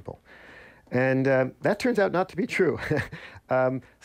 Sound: laughter

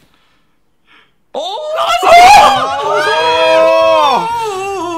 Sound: group oohing

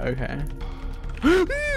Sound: gasps

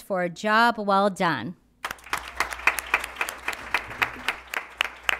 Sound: applause

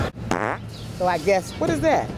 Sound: farting

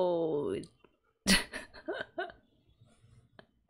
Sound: laughs

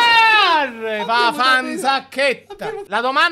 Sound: in Sicilian

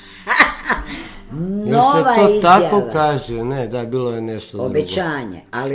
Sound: laughter

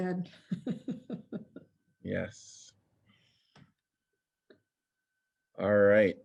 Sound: laughter

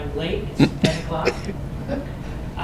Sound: laugh

